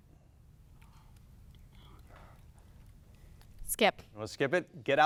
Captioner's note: players whisper